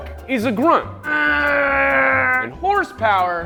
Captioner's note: grunts